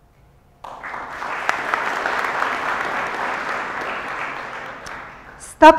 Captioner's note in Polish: oklaski